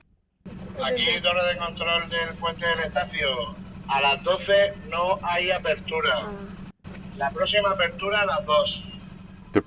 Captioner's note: Talk on VHF radio